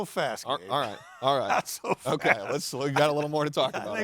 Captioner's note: laughing